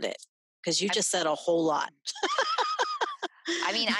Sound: laughing

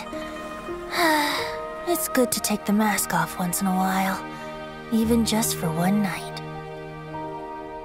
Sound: sigh

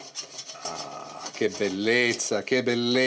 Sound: in Italian

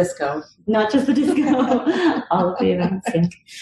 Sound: laugh

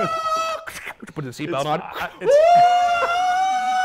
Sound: screaming; screaming

